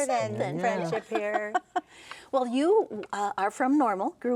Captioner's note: laughing